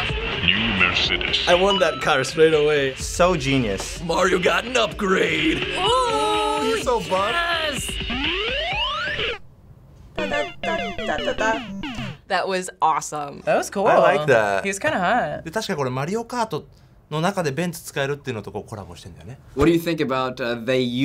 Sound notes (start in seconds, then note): 9.3 hums along; 10.2 game over music